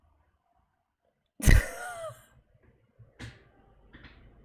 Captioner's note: laughs